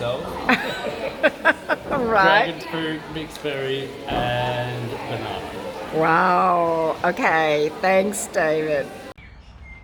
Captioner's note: laughter